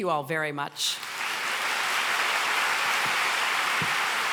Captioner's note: applause